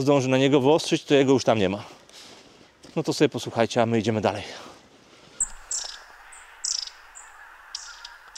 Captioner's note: Geese